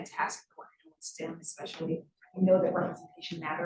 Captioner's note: sound distorted